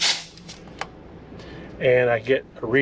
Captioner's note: pump hisses